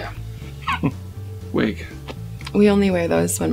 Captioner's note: laughs